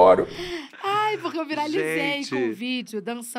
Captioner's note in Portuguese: risos